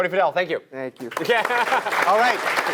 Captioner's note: applause